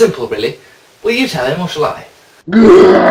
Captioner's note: growls